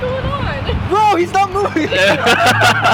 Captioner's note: laughter